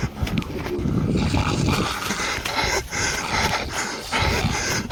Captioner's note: growling approaches